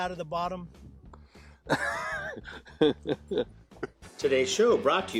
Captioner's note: laughing